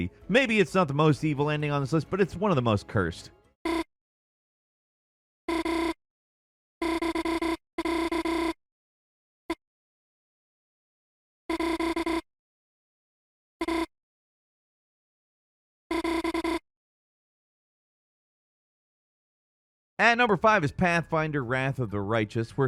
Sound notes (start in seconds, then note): 4.4 video beeping